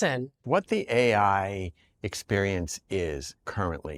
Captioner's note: none